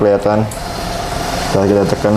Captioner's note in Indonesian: suara mesin printer